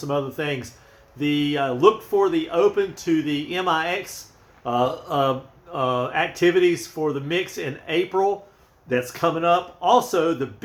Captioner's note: uh uh uh